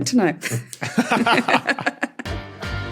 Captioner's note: laugh